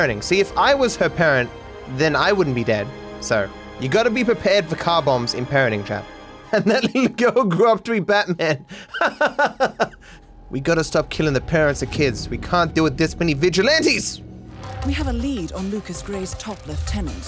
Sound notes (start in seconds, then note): 8.2 laughs